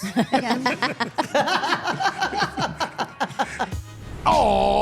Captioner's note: all laughing